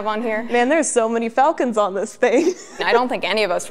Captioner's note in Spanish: risas